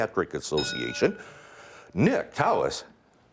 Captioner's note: ding